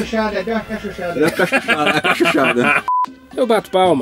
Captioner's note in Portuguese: risos